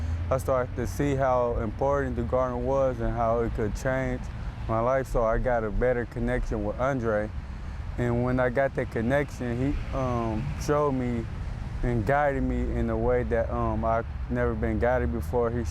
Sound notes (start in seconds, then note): none